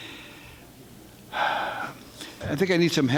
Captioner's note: sighing